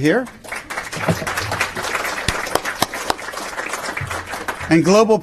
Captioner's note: applause